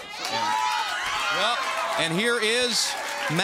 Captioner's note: crowd cheering